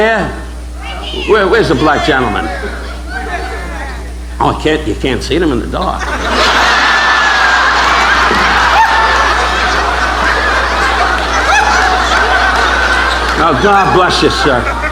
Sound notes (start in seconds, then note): 0.1 audience members speaking; 2.2 audience members speaking; 5.5 audience laughing